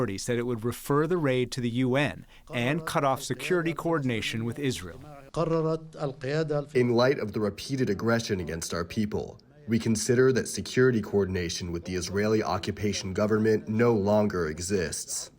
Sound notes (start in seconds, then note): 6.5 through translator